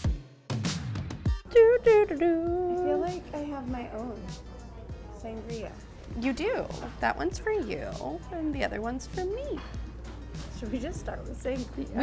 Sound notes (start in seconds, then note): 1.7 hums